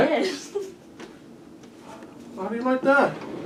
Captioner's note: laughs